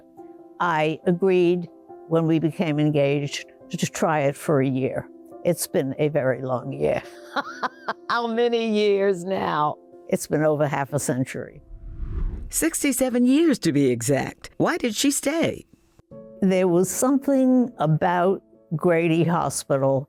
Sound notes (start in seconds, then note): 7.2 laughing